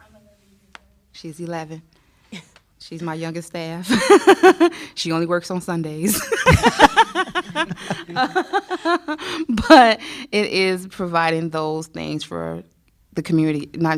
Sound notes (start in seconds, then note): 6.1 laughter